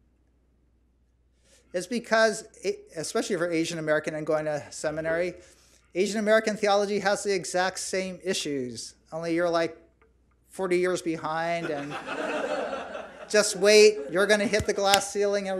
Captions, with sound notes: It's because, especially for Asian American and going to seminary, Asian American theology has the exact same issues, only you're like 40 years behind and-- (audience laughs) Just wait. You're going to hit the glass ceiling